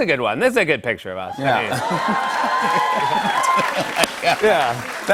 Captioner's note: cheers and applause